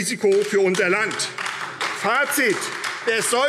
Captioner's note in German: Beifall AfD